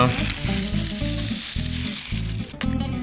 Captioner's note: rattling